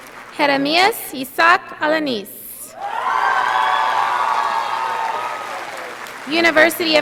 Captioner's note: audience applauding